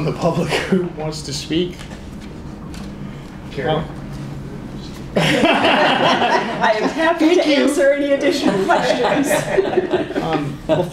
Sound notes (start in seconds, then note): 5.1 laughter